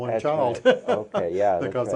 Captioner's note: chuckles